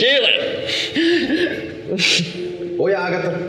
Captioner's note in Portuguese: risadas